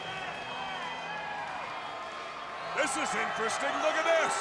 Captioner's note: crowd chattering